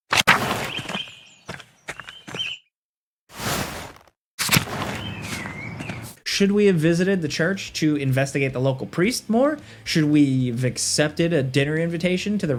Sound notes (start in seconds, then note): 0.0 pages whooshing; 0.6 birds chirping; 4.4 pages whooshing; 4.7 birds chirping